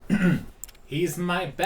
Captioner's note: clears throat